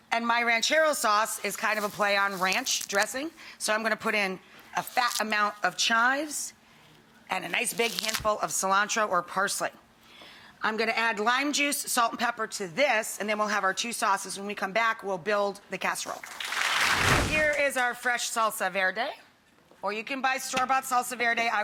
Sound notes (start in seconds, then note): 16.2 audience clapping